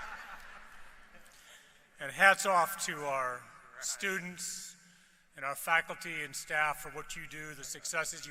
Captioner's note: laughter